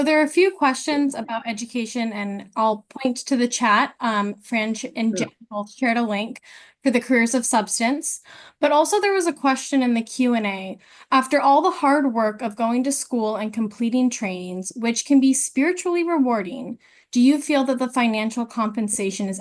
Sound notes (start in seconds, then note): 4.7 voice distorted